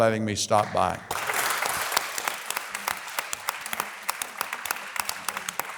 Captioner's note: audience applause